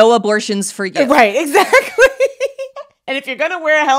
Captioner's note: laughs